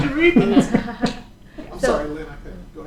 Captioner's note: laughter